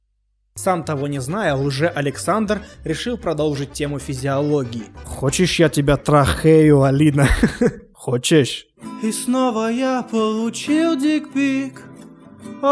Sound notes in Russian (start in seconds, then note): 7.1 хы-хых